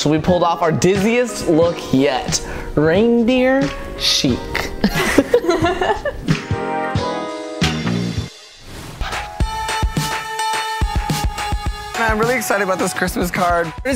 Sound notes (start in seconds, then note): 4.6 both laugh; 9.6 christmas music